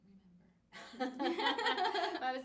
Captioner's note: all laugh